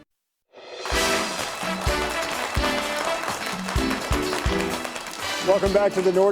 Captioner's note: audience clapping